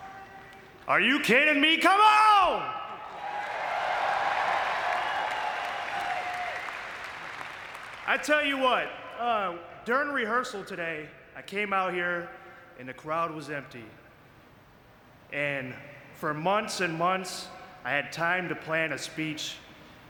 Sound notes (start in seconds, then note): 2.9 audience cheering